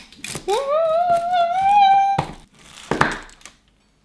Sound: gasping

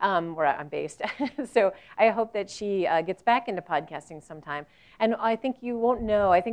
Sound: laugh

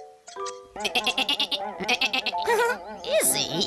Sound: izzy bleats; peep giggles

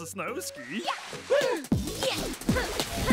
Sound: both gasp; grunting

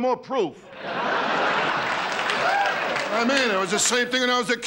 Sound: laughing

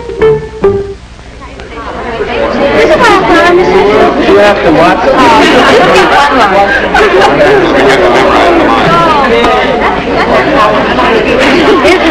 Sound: excited chattering

